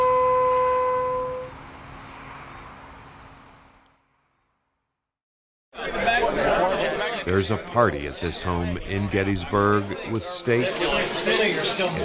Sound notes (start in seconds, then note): 5.7 crowd chattering